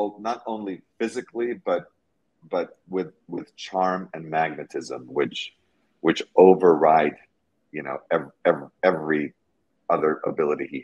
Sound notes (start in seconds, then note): none